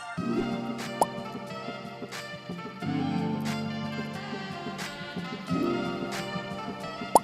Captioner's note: crystal chimes; picture pops